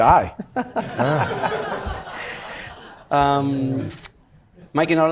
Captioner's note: audience laughing